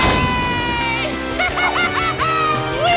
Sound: laughing

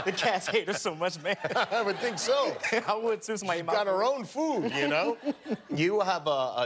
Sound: laughter

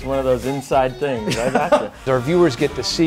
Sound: laughs

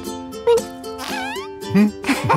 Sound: grunts, farts; both laugh

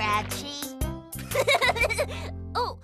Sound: laughs

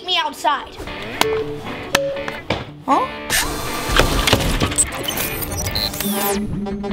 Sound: rock music begins; gears whirring

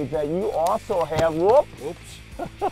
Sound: thud

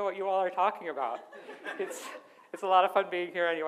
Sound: audience laughs

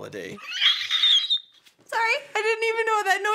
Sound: wheeze

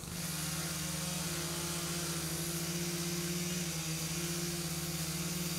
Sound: chainsaws buzzing

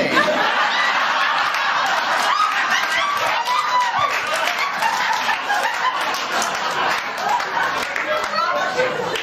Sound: laughter and applause

